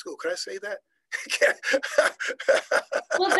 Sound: laughing

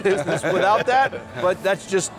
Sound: laughing

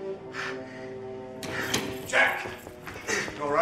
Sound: door opens

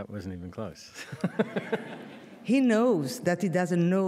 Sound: laughs

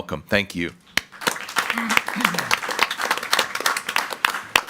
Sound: group applauding

